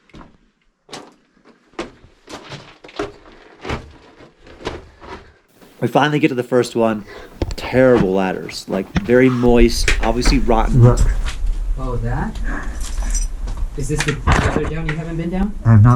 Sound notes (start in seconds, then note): 12.4 breathes heavily; 12.7 clattering